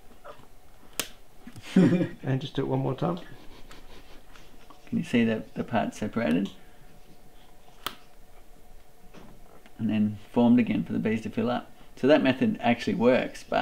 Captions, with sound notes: (laughs) - [Voiceover] And just do it one more time. - Can you see the parts separating? And then formed again for the bees to fill up. So, that method actually works,